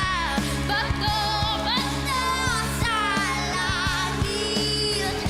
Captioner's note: applause, cheering